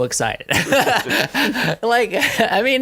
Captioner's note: laughing